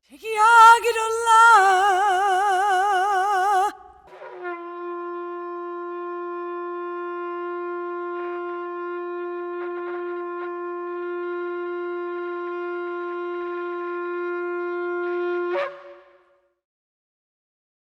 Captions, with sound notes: T'kiah gidola [Shofar blast in response]